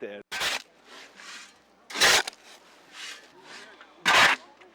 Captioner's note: gravel crunching